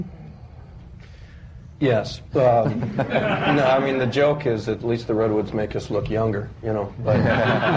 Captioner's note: laughter; laughter